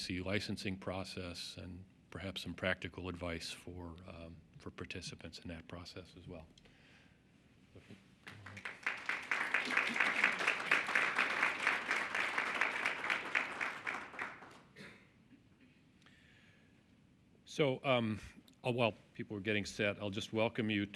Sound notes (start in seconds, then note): 10.4 applause